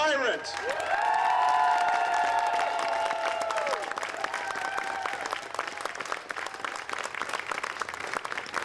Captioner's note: applause